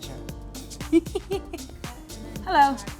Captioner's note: giggles